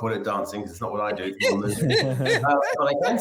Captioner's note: chuckles